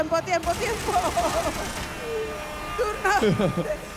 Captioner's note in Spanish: Aplausos